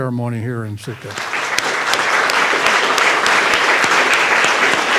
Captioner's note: applause